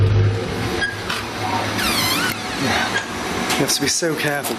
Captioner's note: door creaking